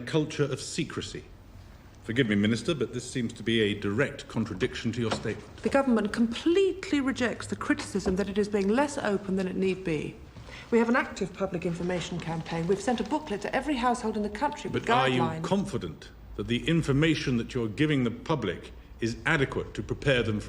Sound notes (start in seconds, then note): 4.8 door opens and closes